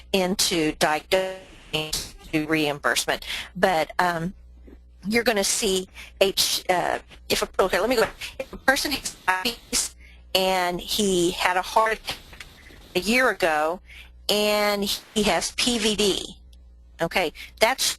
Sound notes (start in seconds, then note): 6.8 static audio - 1:15:21